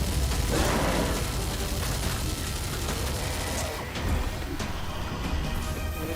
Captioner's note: gunshots